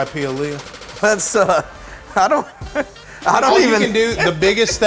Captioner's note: laughs